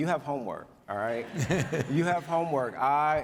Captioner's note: audience laughs